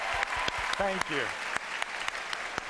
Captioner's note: applause; cheers and applause